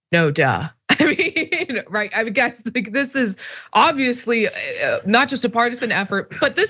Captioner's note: laugh